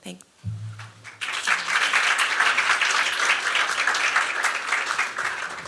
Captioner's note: applause